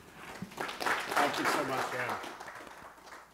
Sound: audience clapping

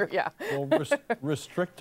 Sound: laughter

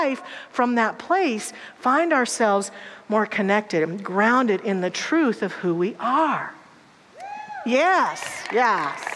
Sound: audience applause

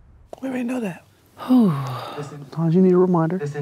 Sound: sighs

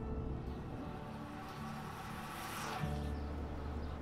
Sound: bike zooming down hill; birds chirping

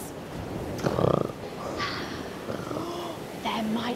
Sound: snoring

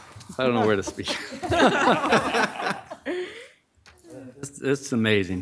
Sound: audience laughing

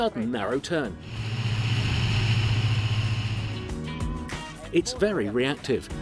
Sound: engine roaring

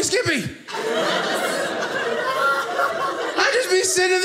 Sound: audience laughing

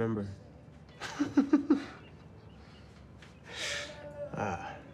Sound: laughing

